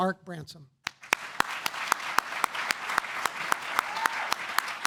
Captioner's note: applause